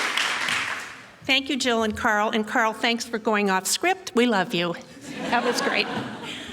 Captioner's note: laughing